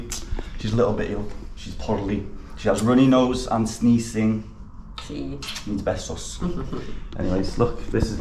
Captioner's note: kisses